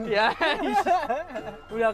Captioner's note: huhuhuhuhu